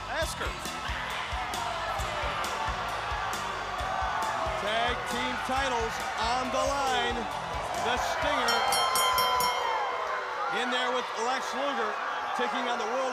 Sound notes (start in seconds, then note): 1.2 crowd cheering; 8.2 bell ringing